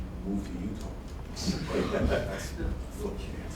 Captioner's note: laughter